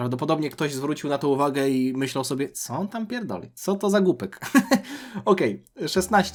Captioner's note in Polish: śmiech